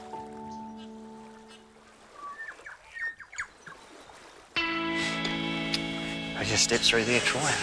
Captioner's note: waves lapping; birds chirping